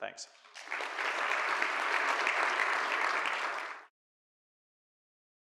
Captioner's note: audience applauding